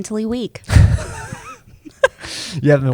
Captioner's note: chuckles; laughs